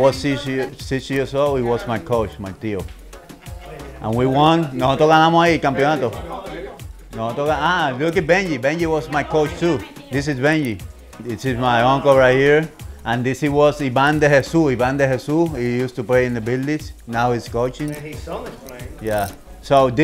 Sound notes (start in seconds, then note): 5.1 in Spanish